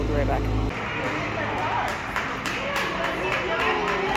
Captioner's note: applause